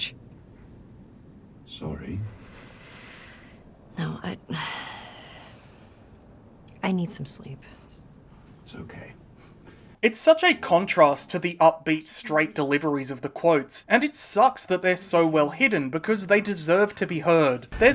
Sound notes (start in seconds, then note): 2.8 long sigh